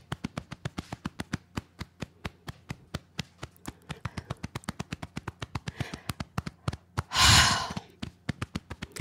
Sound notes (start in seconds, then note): 7.1 sigh